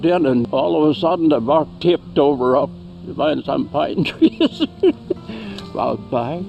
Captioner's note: laughing